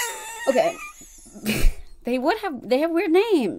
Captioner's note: laughs